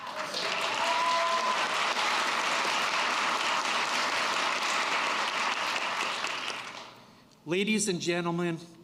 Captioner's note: applause